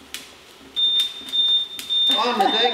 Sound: alarm beeping

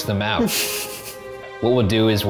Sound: laughs

